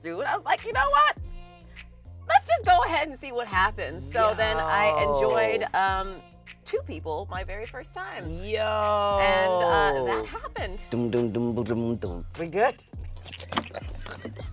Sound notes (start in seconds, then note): 11.0 mimicking a beatbox